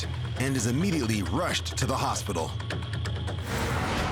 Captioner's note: none